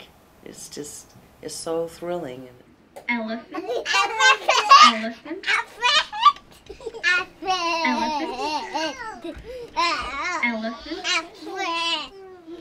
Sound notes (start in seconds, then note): 3.6 children chattering; 10.5 children imitate elephant noise